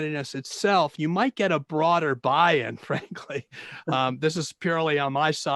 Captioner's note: laughing